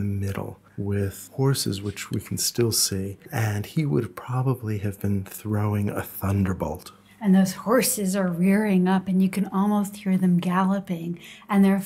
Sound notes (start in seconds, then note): 7.6 voiceover